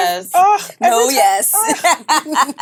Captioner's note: laughs